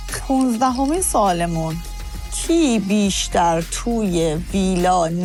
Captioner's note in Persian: none